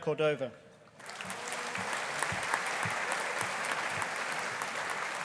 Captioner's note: audience applauding